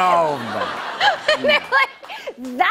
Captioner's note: laughter